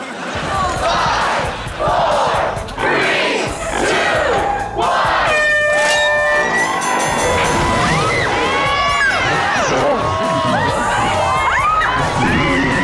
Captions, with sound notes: Five, four, three, two, one. [honking] [dinging] [cheering] [screaming]